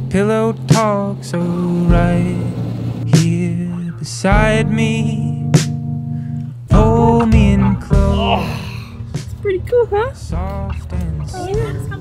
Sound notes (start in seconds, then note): 8.0 grunts